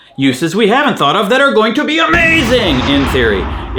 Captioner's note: explosion thunders